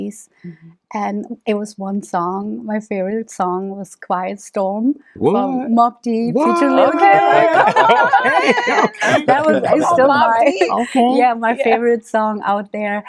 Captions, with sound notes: and it was one song. My favorite song was Quiet Storm. Mobb Deep.... (Cheering) Yeah, that was I was still like, yeah. My favorite song out there.